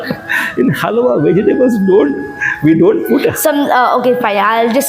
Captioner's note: laugh